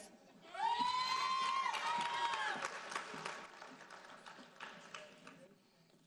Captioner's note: audience cheering and applauding